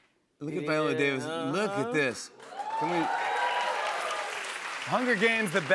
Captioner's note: cheers and applause